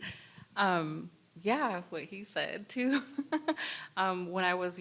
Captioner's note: laughs